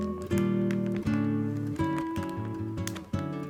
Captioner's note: bag rustling